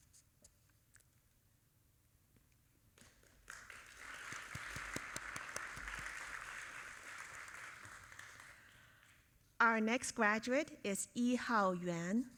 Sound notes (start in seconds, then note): 3.2 audience applauding